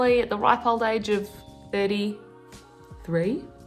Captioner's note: none